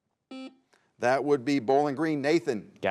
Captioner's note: buzzer buzzes